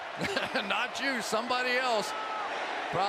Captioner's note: laughs